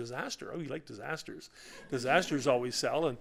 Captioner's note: laughter